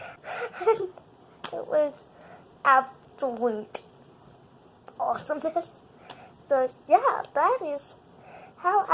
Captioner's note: laughs